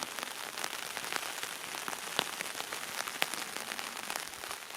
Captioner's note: applaue